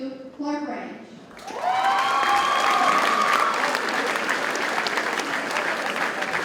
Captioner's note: audience cheers and applauds